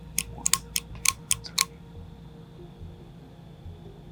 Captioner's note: flashlight clicking